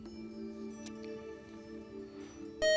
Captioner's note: beep